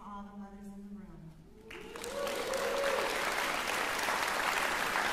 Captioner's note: applause